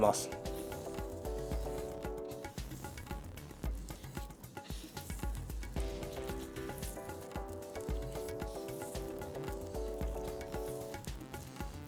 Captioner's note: the sound of cutting